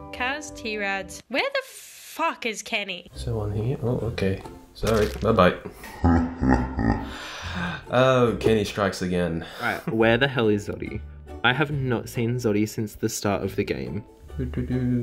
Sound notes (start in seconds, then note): 4.8 squelching; 5.8 evil laughing